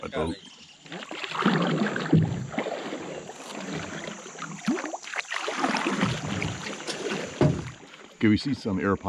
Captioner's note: paddles lapping water